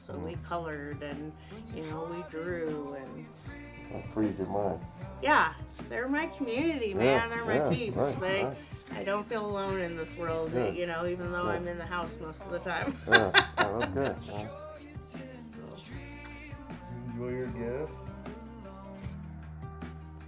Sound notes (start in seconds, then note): 12.7 laughing